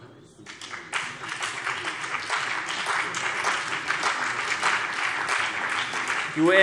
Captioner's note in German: Beifall CDU und BÜNDNIS 90/DIE GRÜNEN